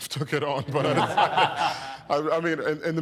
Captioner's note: all chuckling